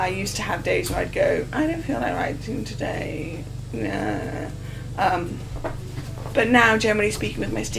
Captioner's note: normal voice